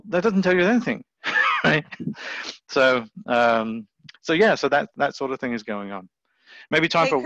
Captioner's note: chuckles